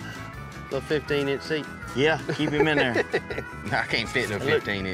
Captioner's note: laughs